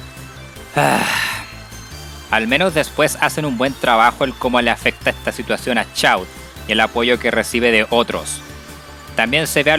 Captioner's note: sigh